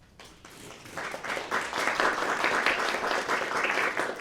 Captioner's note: applause